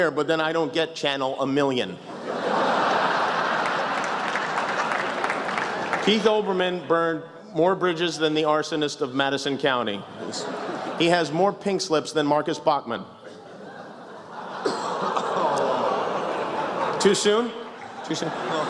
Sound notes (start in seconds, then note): 3.7 laughter, applause; 10.1 laughs; 13.3 oohs